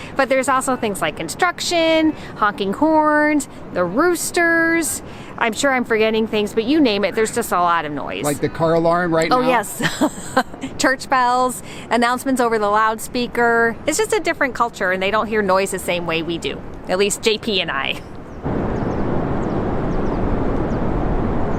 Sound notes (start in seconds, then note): 9.6 chuckles; 18.4 ocean tides hamming